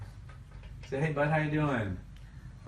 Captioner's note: voiceover